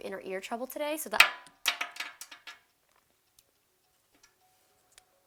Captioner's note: earbud clinks